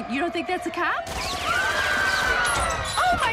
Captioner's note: gunshots and screaming